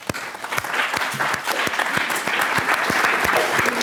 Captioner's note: applause